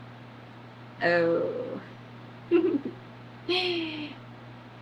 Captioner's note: laughs